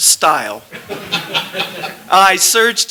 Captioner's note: laughter